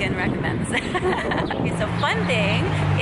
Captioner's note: laughing